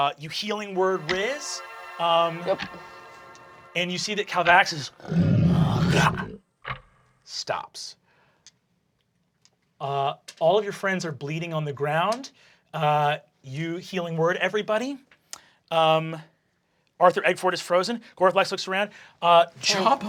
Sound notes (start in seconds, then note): 0.2 light magical twinkling; 4.9 roaring; 19.6 laughing